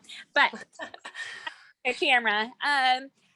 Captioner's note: laughs